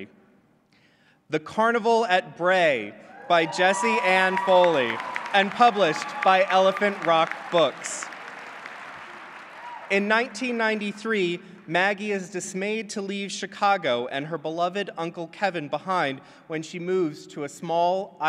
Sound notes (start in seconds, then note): 7.4 clapping